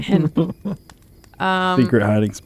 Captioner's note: laughter